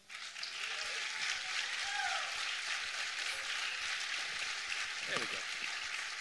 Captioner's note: applause